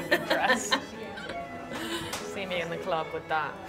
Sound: laughing

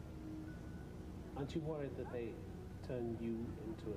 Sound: voiceover

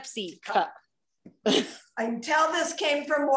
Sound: laughter

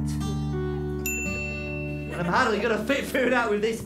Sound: ding

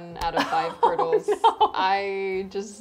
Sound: laughs

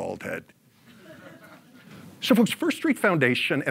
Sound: audience laughs

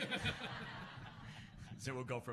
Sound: laughs

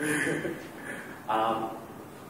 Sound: laughter

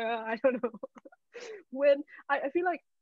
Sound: laughing

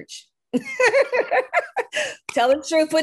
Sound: laughs

